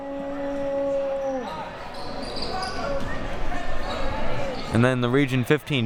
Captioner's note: audience chattering and yelling